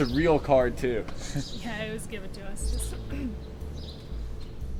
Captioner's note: clears throat